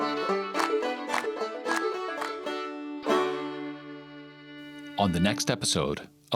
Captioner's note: clapping